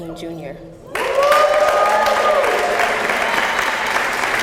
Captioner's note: applause